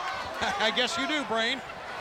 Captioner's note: laughs